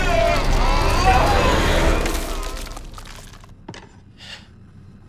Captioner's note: crackling; Tim gasping